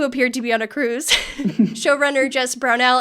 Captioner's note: laughing